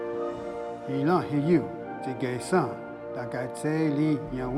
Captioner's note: Ostenaco speaking Cherokee